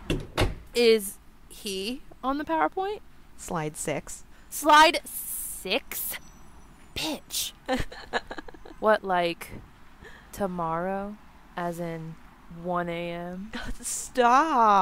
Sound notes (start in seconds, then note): 7.4 NIKKI laughs